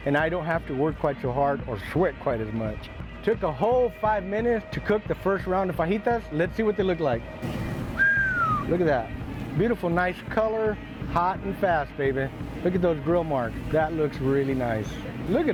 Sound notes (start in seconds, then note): 7.8 whistle